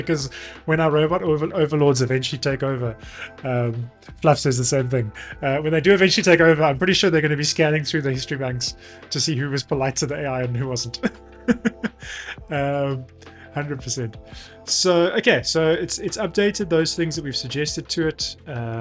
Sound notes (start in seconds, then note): 11.5 laughs